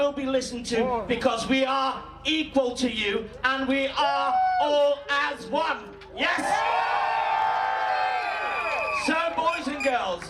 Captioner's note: cheers